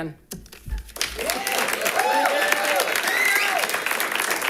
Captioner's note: audience claps